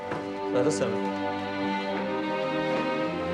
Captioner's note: speaks Pashto